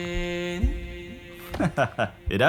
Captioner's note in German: lacht